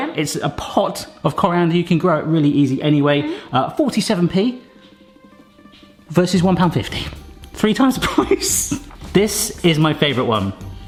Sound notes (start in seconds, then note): 8.0 laughs